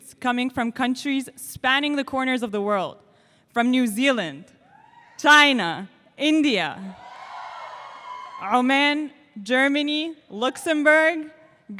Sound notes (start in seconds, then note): 4.4 audience cheers; 7.0 audience cheers